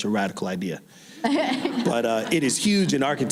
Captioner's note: laughing